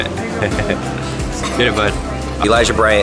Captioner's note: laughs